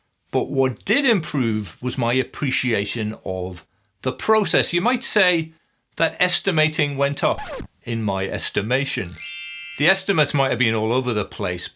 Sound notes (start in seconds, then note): 7.3 record scratching; 9.0 twinkling music